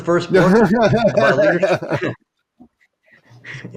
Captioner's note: laughing